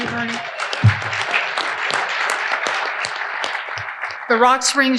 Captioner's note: audience applauding